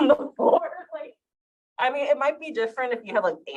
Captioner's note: chuckles